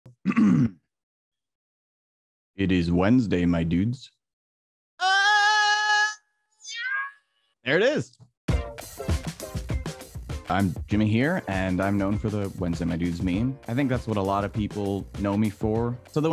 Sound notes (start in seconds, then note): 0.1 clears throat; 5.0 moaning; 8.9 upbeat music